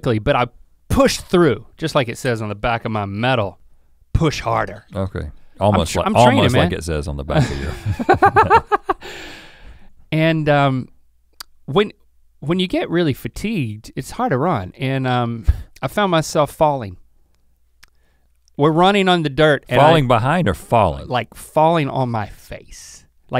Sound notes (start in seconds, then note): 7.4 chuckles